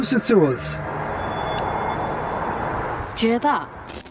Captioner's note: Screech